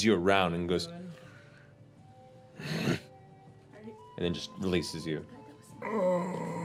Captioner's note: grunts